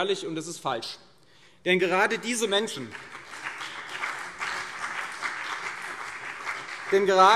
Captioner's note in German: Beifall CDU und BÜNDNIS 90/DIE GRÜNEN